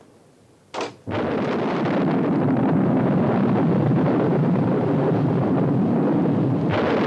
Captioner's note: door unlatches; thunder rumbles